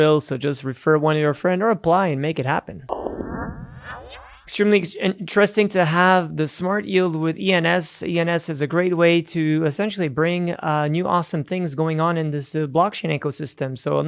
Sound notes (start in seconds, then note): 2.8 electronic echo